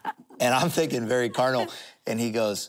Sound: laughter

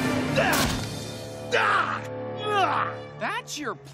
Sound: screaming

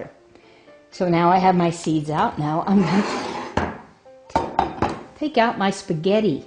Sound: bowl sliding and thumping

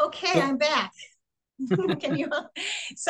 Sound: chuckles

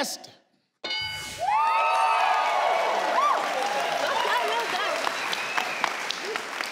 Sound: bell clanging; audience cheers

